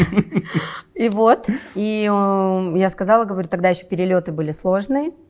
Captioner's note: laughs